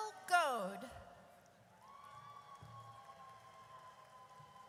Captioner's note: audience cheers